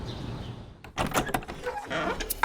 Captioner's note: door creaks